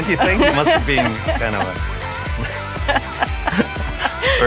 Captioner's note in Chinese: 笑声